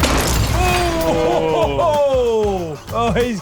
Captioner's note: sound of gunshot; laughter